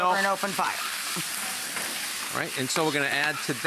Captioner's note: pan sizzling; audience chuckling